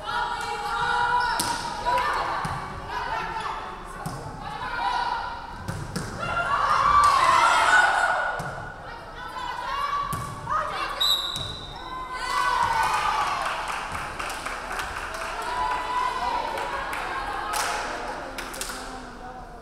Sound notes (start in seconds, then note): 11.0 referee whistling; 12.8 crowd clapping